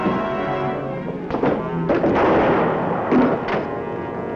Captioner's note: gunshot